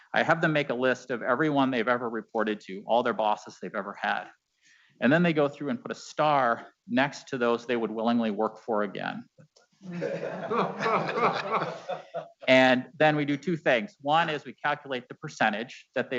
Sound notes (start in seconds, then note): 9.8 board members laughing